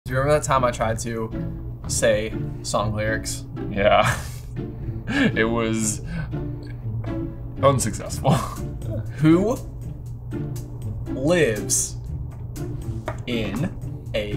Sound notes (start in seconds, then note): 3.8 laughs